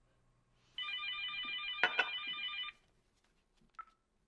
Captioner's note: telephone rings